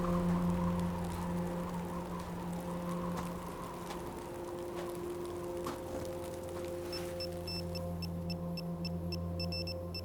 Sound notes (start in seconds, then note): 0.0 soft music; 1.2 footsteps thudding; 7.1 machine beeps